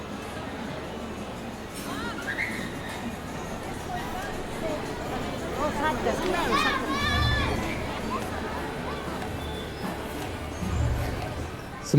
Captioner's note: crowd chattering